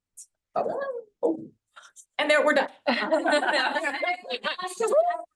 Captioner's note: laughing in the room